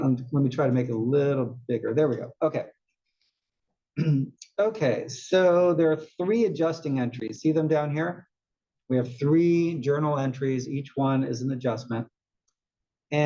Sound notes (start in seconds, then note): 4.0 cough